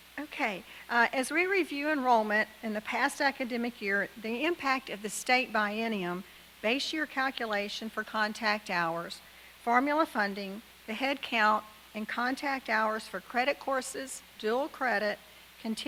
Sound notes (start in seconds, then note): none